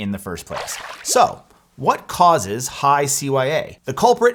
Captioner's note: water splashing